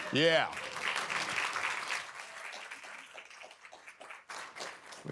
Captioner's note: applause